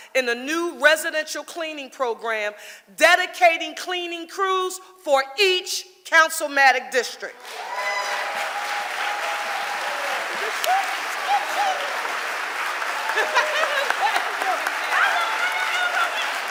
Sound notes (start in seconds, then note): 7.4 audience applauding